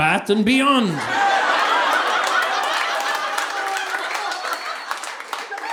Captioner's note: audience laughing